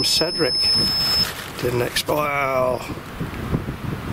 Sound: beeping stops

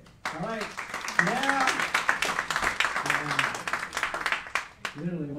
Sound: applauding

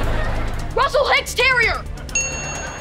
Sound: dinging

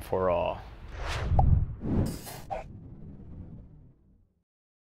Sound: swooshing air

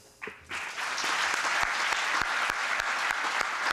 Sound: applause

